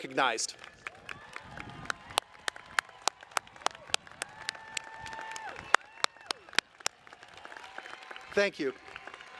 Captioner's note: applause